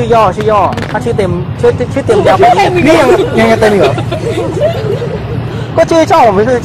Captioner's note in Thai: เสียงหัวเราะ